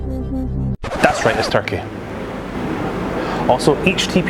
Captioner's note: record Scratch